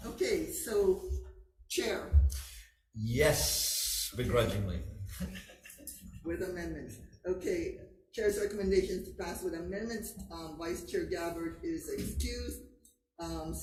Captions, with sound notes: - Okay, so... Chair. - Yes, begrudgingly. (laughs) - With amendments. Okay. Chair's recommendation is to pass with amendments. Vice Chair Gabbard is excused.